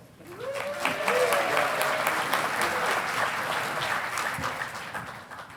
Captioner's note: audience applauding